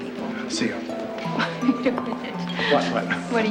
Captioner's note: laughs